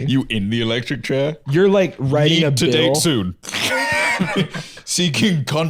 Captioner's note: laughs